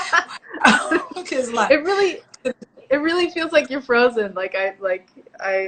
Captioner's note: laughs